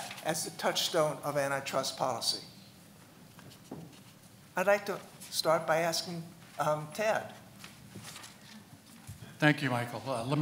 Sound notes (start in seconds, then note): none